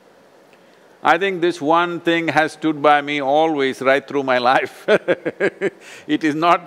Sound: laughs

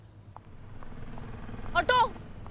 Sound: auto passing

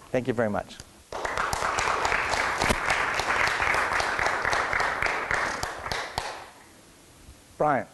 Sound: applause

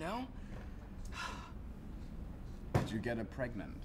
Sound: sighs

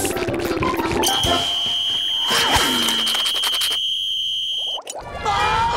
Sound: whistle blowing

